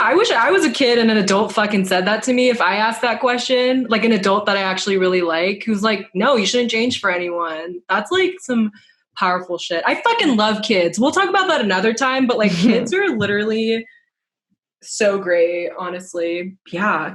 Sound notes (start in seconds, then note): 12.4 laughs